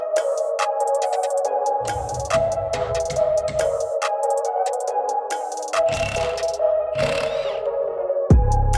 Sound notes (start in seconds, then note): 1.8 hammer banging